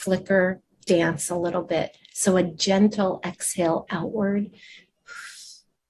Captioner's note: exhales